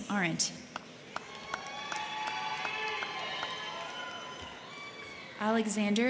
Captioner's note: crowd clapping; crowd cheering